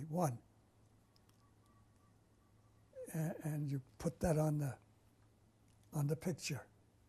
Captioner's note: pauses for 3 seconds